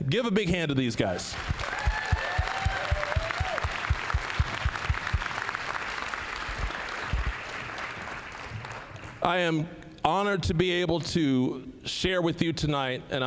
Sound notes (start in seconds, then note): 1.2 applause, cheering; 7.1 applause